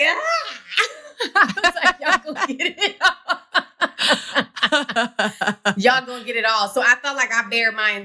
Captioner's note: laughing